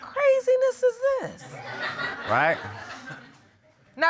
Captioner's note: audience laughing